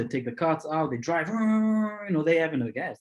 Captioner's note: imitates engine revving